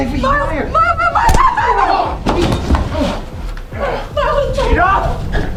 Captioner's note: screams; weapon thuds; Miles groans; whimpers